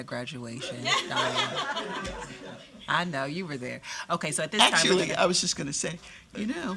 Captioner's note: laughter